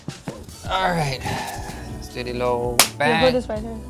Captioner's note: clap